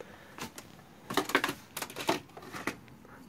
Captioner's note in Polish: Odgłosy odkładanych narzędzi